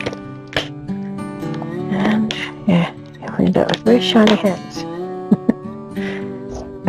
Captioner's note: laughs